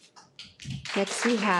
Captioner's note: participants applauds